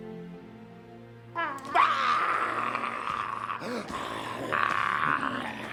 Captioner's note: growling